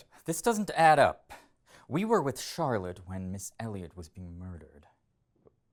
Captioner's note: none